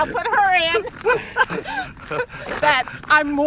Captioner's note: laughing